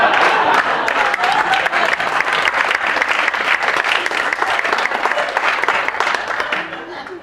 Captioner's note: applause